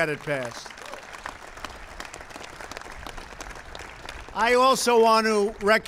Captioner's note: applause